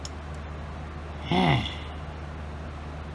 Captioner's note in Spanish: suspira